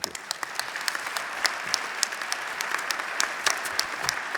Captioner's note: applause